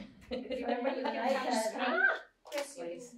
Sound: laughter

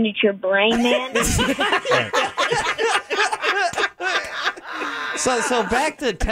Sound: everyone laughing

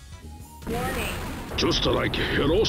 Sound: nuke launches

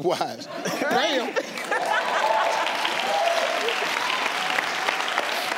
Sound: audience clapping

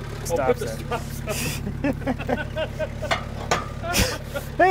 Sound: both laughing

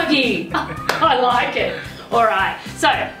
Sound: laughs

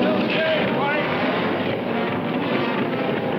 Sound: shouting

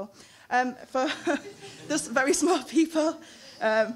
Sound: laughing

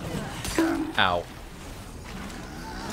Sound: donk

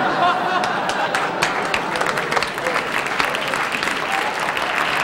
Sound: audience applauding

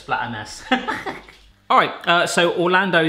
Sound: laughing

